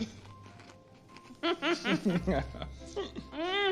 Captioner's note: both chuckle